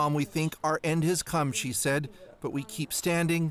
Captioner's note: speaking Foreign Language